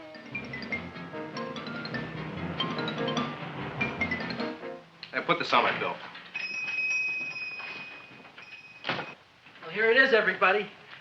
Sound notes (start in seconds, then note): 0.0 upbeat music; 6.4 shop bell dings